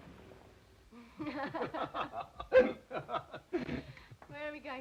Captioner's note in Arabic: كلاهما يضحك